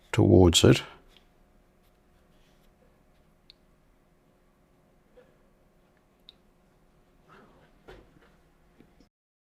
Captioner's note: silence